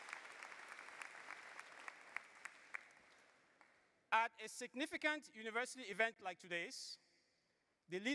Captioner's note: applause